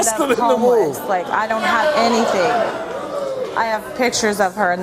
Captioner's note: audience jeering